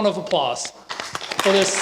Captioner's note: applause